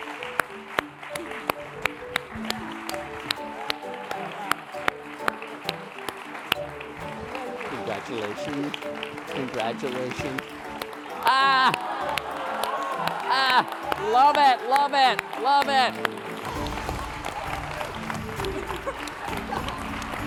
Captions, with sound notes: (upbeat music) (applause) Congratulations, congratulations. (laughing) Love it, love it, love it. (upbeat music)